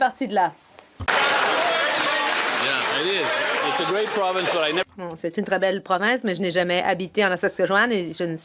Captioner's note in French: voix de l'interprète